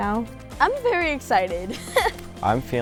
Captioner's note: laughs